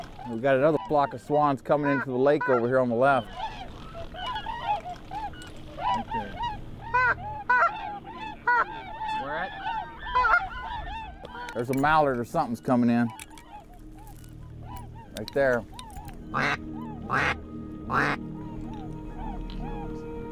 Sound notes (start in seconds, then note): 10.7 bird calls; 16.5 duck calls